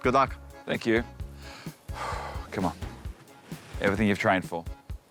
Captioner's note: inhales, exhales